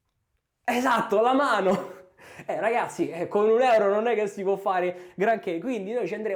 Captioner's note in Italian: risate